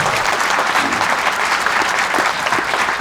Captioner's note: applause